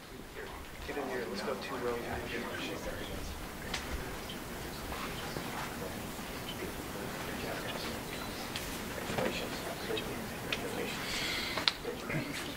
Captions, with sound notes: Get in here, let's go two rows in here. (audience chatters and laughs)